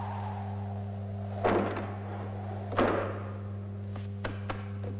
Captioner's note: door thudding